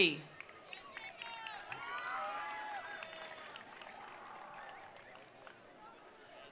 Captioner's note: attendees applauding; attendees cheering